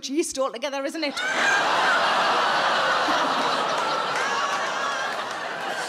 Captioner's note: audience laughing and groaning